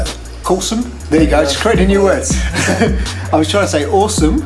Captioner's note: laughs